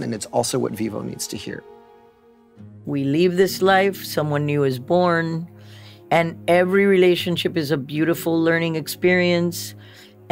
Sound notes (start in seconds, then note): none